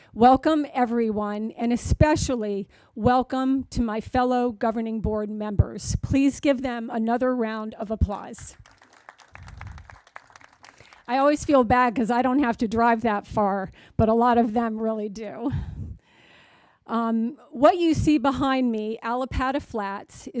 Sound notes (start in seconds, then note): 8.5 crowd applauding